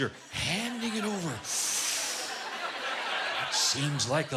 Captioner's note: inhaling sharply